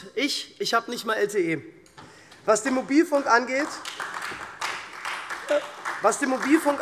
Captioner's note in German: Beifall SPD und Freie Demokraten